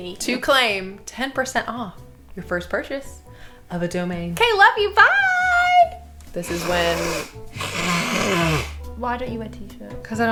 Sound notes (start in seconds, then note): 6.4 blowing nose